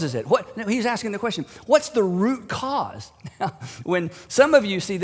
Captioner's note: chuckles